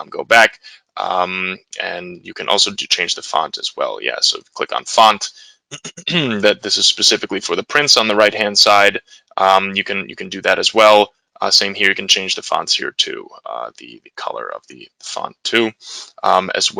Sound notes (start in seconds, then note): 5.7 clears throat